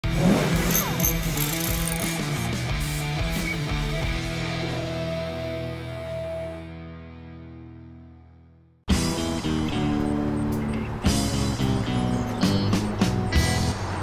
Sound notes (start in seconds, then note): 0.2 rock music; 0.7 tools creaking; 8.8 smooth music